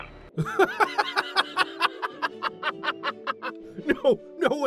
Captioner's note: bursts out laughing